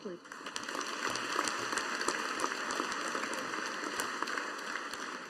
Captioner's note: audience applauding